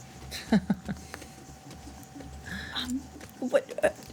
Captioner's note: laughing